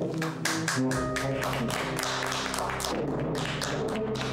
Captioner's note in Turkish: Alkış sesi